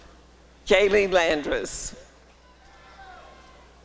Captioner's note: applause and cheering